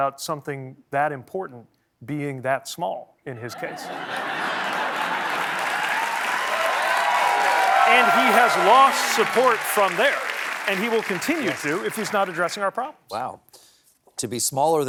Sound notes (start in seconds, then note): 5.8 applause